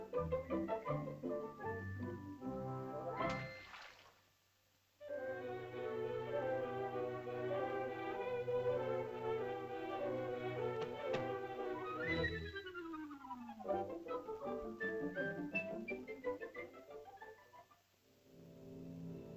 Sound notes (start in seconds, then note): 3.3 water splashes; 5.0 whimsical music; 18.2 soft ominous music